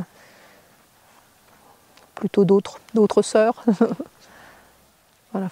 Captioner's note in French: Rires